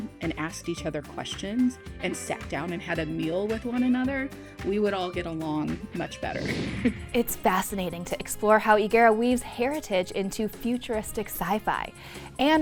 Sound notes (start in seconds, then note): 6.2 screen whooshing